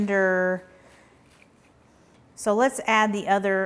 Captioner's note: cabbage rustling